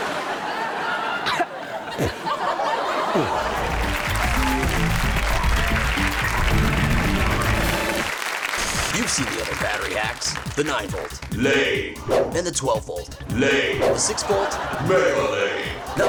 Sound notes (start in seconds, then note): 0.0 audience laughs; 2.9 audience applauds; 11.5 deep Voice; 13.4 deep Voice; 15.2 deep Voice